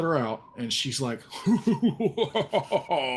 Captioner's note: laughing evilly